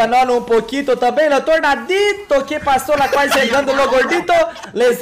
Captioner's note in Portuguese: risos